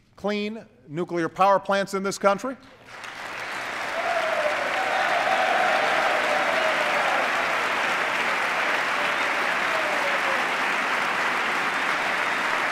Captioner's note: applause